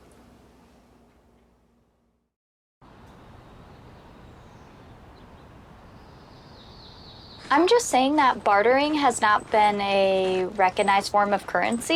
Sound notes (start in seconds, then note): 3.0 birds chirping